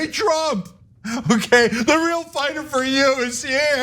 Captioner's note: laugh